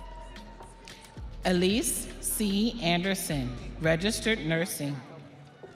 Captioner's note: audience cheering